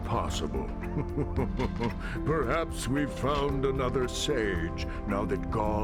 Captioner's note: chuckles